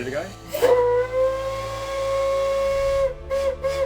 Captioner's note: train whistle